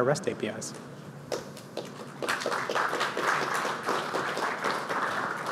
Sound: applause

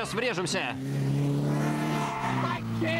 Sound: horn blares

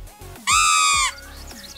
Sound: squeaking

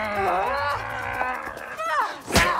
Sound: both grunt

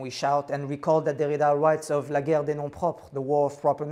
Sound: non-english speech

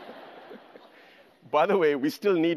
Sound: laughs; audience laughter

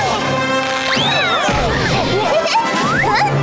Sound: loud crashing

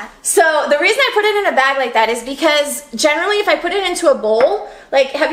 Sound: none

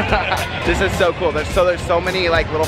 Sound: laughs

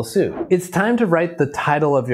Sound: video clip whooshes

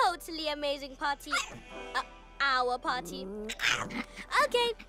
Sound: yaps

